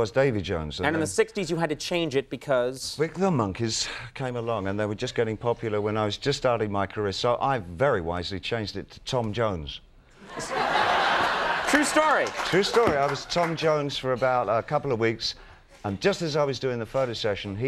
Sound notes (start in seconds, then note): 10.2 crowd laughing